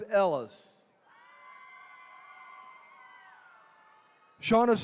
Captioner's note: attendees cheering